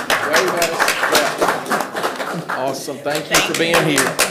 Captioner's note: everyone applauding